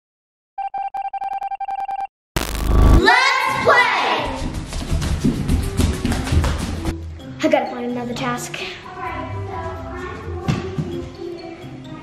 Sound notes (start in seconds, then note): 0.8 signal beeps; 2.4 electric zapping